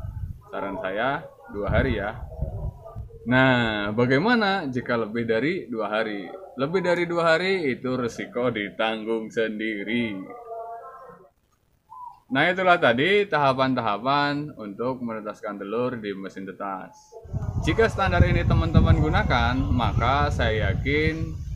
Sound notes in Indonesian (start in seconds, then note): 10.0 Tertawa